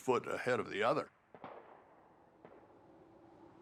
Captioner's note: sporadic gunfire